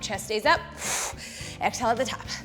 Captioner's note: exhales